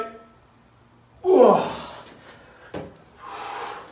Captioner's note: grunts